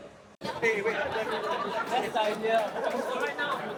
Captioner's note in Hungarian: nevetés